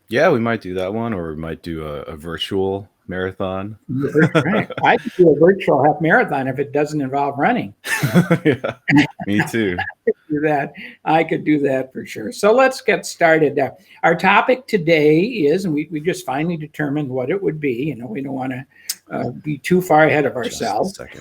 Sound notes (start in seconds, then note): 3.9 laughs; 7.8 both laugh